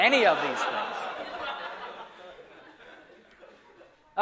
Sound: laughter

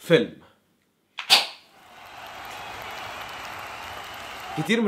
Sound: cheerings

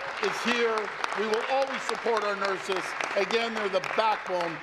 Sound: applause

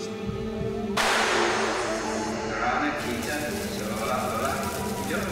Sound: gun shots and wolves crying

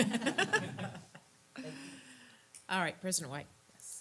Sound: laugh

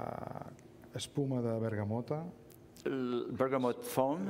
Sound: speaking catalan

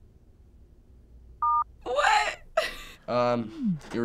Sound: beep

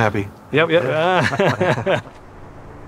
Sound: laughter

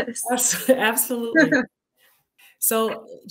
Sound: giggling

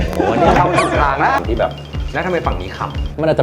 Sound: somebody is laughing

